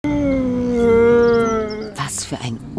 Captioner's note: howling